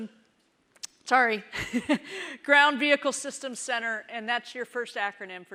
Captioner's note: chuckles